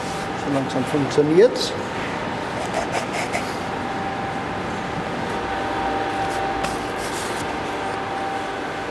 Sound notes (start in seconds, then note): 5.3 machine whirring